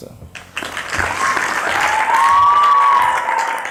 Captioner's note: applause